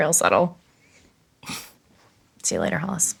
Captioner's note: snort